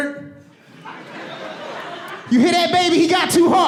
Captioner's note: audience laughing and applauding